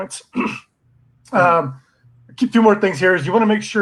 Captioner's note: clears throat